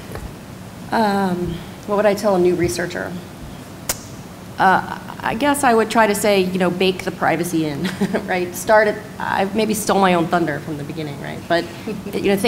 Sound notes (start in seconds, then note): 7.8 laughs